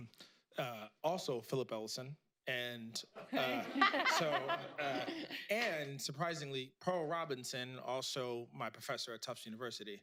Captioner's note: laughter